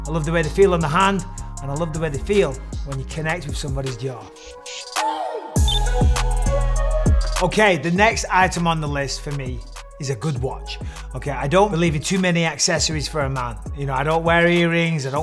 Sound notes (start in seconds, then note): 5.1 bright hip hop music; 5.6 graphic blips